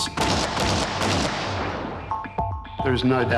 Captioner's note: gun fires rapidly